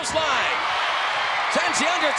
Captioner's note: crowd cheering